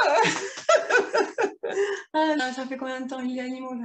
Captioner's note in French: rires